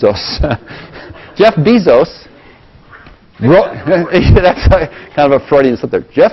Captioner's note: laugh; laugh